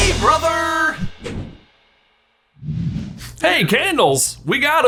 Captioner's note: logo whooshing